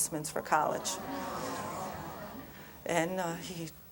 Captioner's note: crowd murmurs